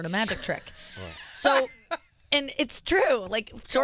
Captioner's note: laughing